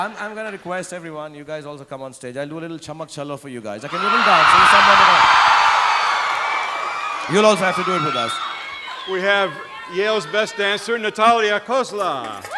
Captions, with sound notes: I'm gonna request everyone, you guys also come on stage. I'll do a little Chammak Challo for you guys. (audience cheering) You'll also have to do it with us. - We have Yale's best dancer, Natalia Cosla.